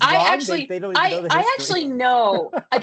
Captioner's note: laughs